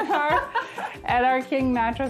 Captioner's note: laughter